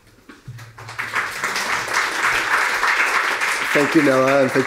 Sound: applause

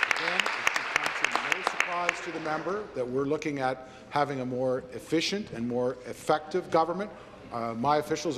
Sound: applause

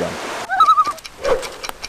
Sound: loon call

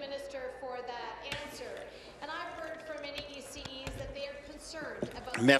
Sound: applause

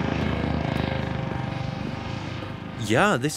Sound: helicopter sound fading

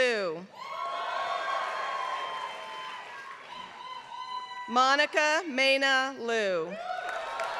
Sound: applause

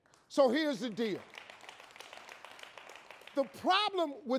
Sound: audience clapping

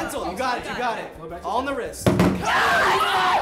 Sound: bottles whumping

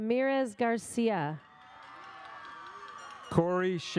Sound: audience cheers

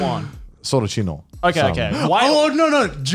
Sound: murmurs

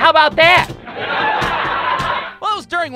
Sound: audience laughter

